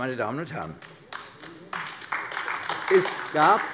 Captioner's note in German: Beifall AfD